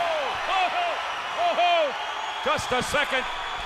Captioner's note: crowd cheering